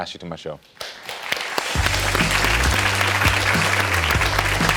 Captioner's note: audience clapping